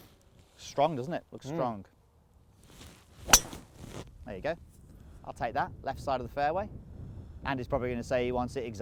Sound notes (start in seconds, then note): 3.3 thwack sound